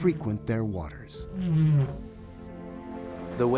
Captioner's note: whale calling